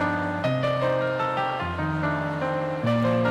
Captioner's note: none